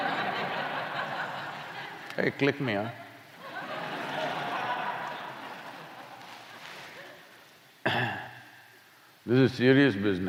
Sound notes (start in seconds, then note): 0.0 laughter; 6.7 laughter